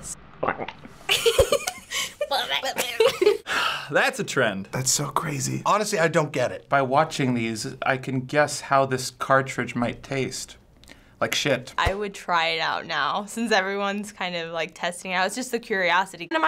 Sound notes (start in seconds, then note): 0.4 man retches; 1.1 giggles; 2.2 both imitate retch; 3.4 sighs